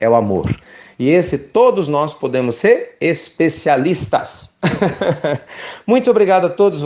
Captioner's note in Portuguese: Risos